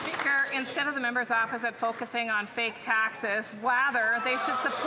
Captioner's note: some Applause